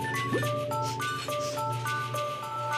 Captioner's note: sniffing